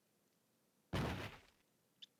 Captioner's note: thud